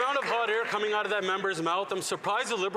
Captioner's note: some Applause